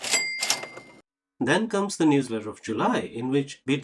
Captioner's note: cash register sounds